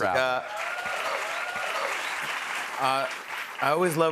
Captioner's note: cheers and applause